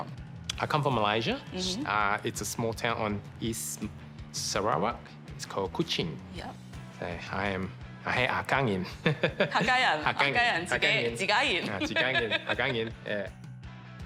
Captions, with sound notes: I come from Malaysia. It's a small town on East Sarawak. It's called Kuching. Yep. Yeah, I am...(SPEAKS HAKKA) (BOTH SPEAK IN HAKKA)